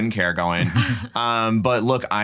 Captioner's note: laughs